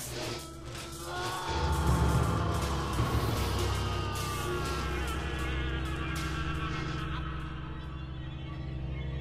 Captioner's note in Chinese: 男人慘叫聲